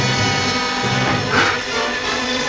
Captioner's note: foreboding music; gasps; thrilling music